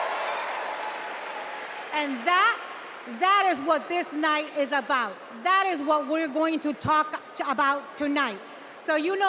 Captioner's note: cheers and applause